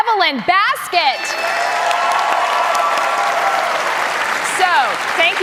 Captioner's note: cheers and applause